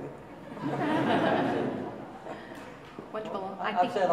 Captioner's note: audience laughing